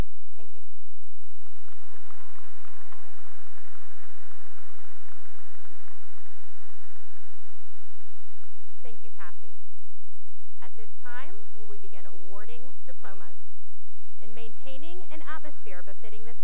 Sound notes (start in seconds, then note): 1.3 cheering and applause